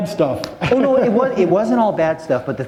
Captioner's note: laughter